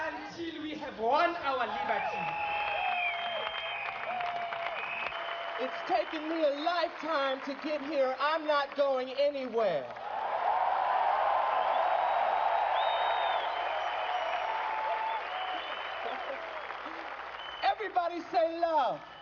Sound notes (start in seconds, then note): 10.6 applause